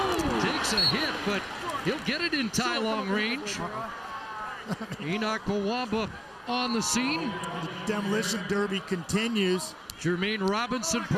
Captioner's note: loud Crowd Noise